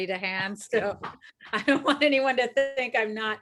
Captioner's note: laughs